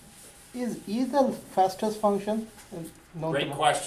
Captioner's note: voiceover